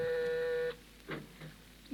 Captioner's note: phone rings